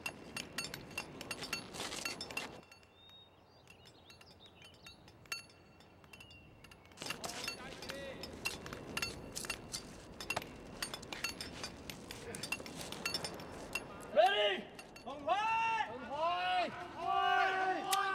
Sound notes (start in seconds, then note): 14.7 shouting in Chinese